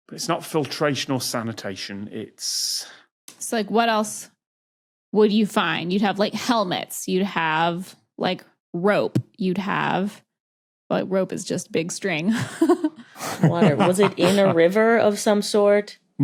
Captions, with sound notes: It's not filtration or sanitation, it's... So what else would you find? You'd have helmets. You'd have rope. You'd have... Rope is just big string. (chuckles awkwardly) Was it in a river of some sort?